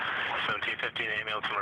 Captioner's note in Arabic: رنين الراديو